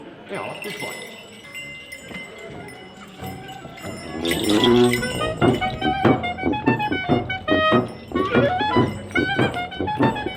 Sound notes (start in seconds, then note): 1.3 bells chiming; 3.8 instrumental upbeat music